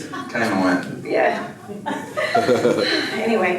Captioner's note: audience laughs